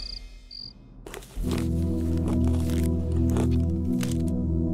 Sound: sound of munching

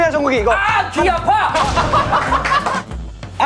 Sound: hahaha

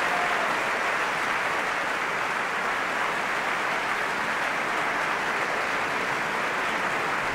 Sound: applause

